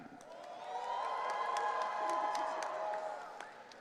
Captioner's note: audience cheering